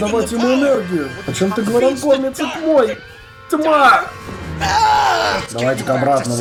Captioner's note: screams